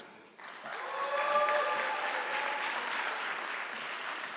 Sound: audience clapping

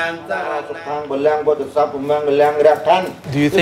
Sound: monk speaking in foreign language

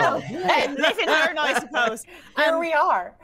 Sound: all laughing

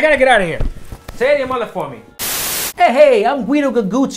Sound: static hisses

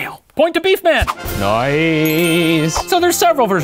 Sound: celebratory horns; ding

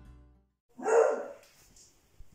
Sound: Gilbert´s barking

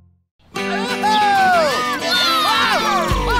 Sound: cheering

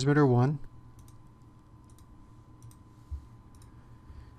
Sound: typing

